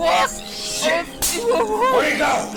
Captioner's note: slap